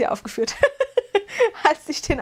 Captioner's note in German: gelächter